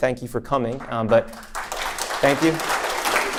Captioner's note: audience applause